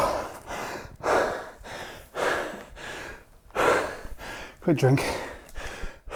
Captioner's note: breathes heavily